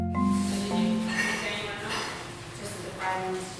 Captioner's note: chatter in background